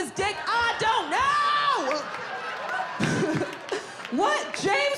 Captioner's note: audience laughing